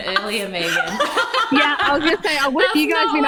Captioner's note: all laugh